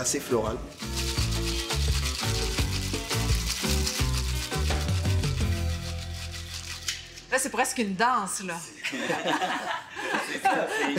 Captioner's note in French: rires